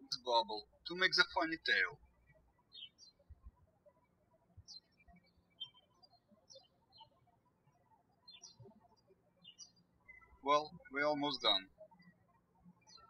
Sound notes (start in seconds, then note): 0.0 birds chirping; 4.5 birds chirping